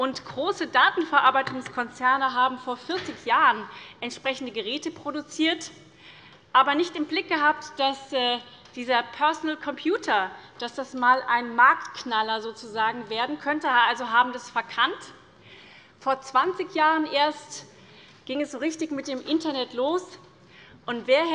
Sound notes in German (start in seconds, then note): none